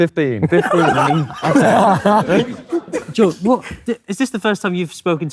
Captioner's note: group laughing